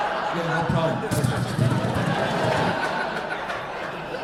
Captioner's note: audience laughing